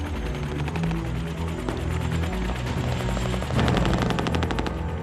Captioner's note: helicopter rotors whirring; somber music; gunshots booming